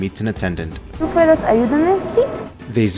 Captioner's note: spanish